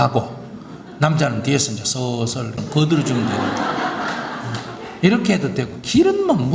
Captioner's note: audience Laughter